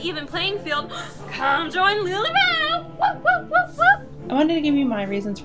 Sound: whooping

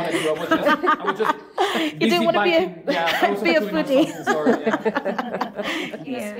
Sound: all laughing

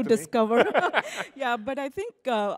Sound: laughs

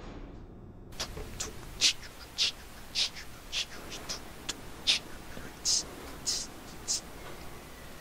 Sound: humming

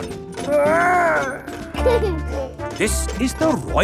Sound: giggles

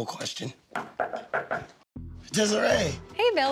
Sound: knocks

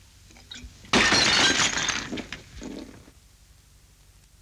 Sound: glass shattering

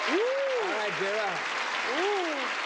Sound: applauding

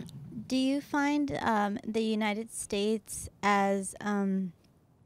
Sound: voiceover

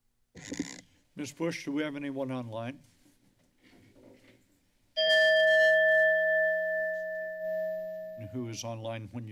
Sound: bell rings

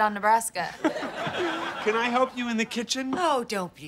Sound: chuckles

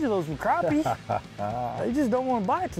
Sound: laughing

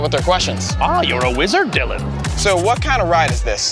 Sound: mimicking Yoda

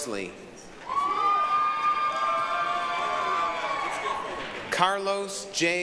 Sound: applause, cheering

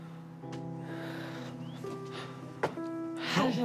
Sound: sighs heavily

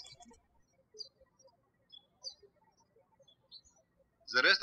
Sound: birds chirping

